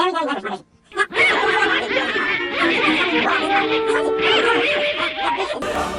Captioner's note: quacking in background